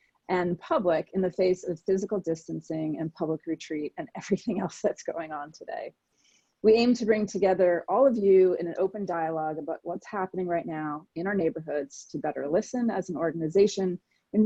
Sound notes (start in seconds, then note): none